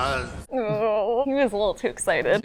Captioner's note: groans